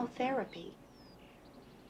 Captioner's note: birds tweeting